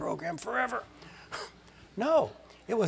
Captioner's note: laugh